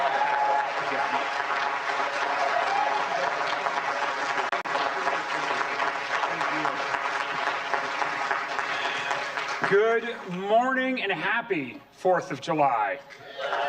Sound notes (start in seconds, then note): 2.2 applause